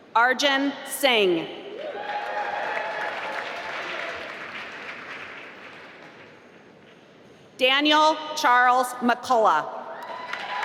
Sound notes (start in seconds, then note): 1.9 applause; 10.0 applause